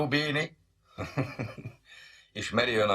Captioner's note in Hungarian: kis nevetés